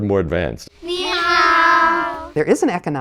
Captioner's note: foreign language